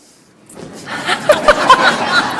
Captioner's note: laughter